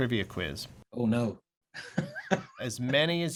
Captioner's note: laughter